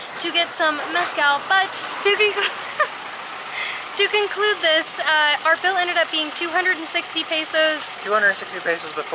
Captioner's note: laughter